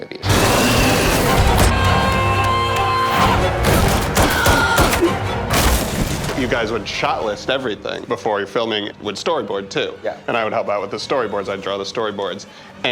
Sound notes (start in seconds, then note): 0.0 alien roaring; 3.5 man thuds; 4.3 gun firing; 5.5 man thuds